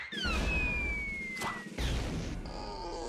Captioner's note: thudding; creaking